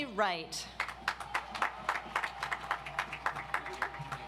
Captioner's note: audience applauds